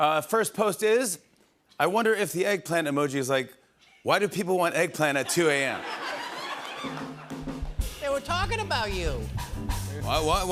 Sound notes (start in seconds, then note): 5.2 laughter